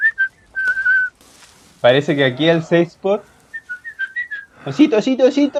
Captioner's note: bear sounds